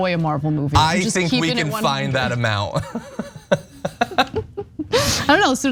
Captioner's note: laugh